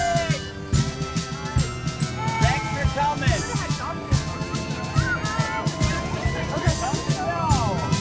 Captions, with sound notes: Thanks for coming. [CHATTER]